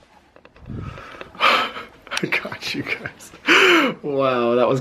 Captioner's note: chuckling